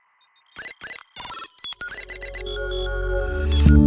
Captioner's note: device beeping; bright music